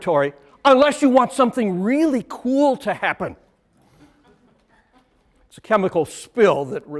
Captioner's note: laughter